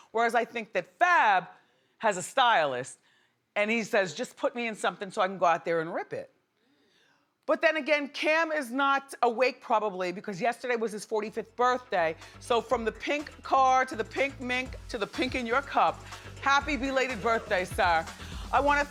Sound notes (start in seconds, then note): none